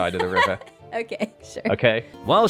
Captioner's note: laughs